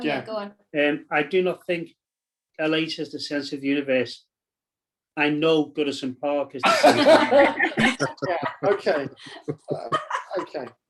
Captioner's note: laughter